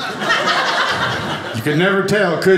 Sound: audience laughing

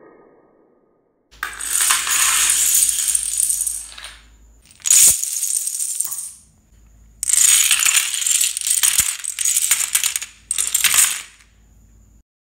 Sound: dominoes falling

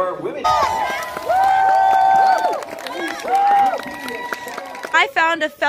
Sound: cheering and applause

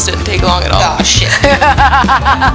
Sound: laughing

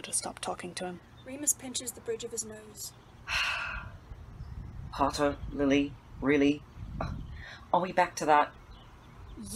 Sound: sighs

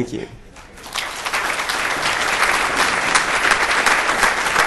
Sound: audience applauds

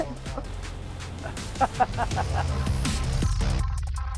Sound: laughing

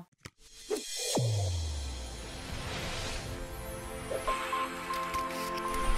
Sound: inspirational swoosh and chimes

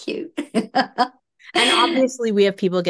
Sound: laughs

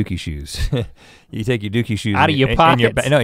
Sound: chuckles

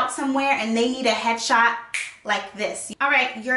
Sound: fingers snap

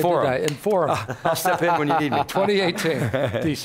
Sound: laughing

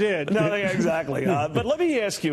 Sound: laughter

